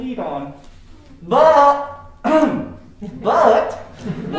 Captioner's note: clears throat